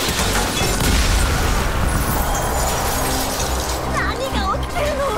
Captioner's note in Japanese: 爆発音